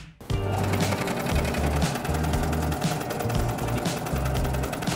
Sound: upbeat music; food slicer roaring

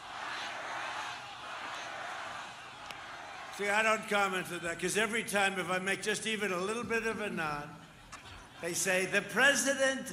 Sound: crowd chanting "lock her up"

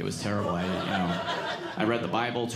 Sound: audience laughing

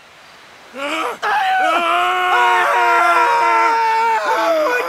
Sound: horrific screaming

